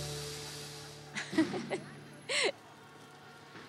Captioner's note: Laughing